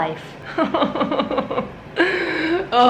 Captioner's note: sobs